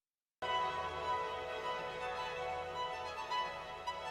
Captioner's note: none